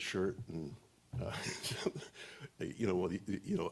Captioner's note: laughs